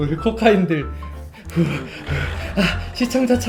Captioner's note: heavy breathing